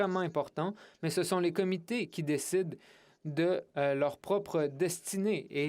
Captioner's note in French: voix de l'interprète